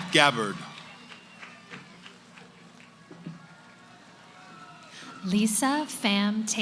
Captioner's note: cheering